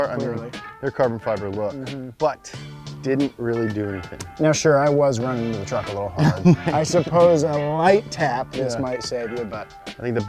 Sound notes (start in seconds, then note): 5.7 laughs